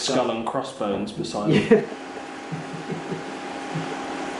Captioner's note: laughs